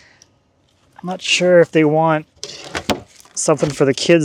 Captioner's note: wood clanging